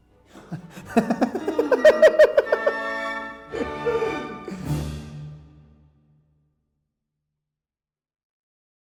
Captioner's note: laughter